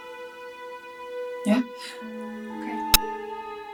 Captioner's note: chuckles